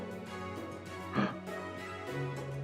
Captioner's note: gasps